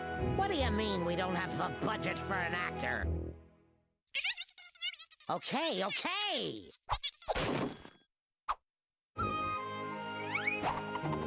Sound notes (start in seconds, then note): 4.1 chattering angrily